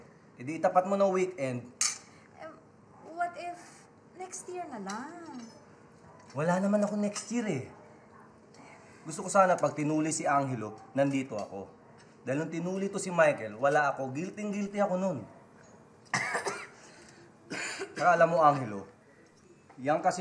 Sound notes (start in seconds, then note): 16.1 Michael coughs